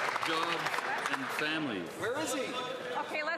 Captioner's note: some Applause